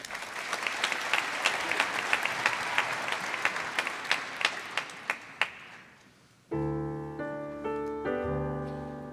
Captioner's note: applause